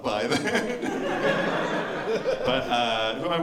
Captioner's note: laughter